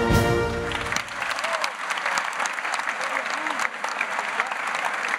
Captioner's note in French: Applaudissements